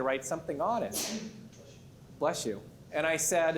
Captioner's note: sneezes